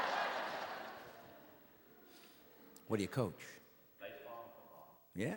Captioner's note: audience laughing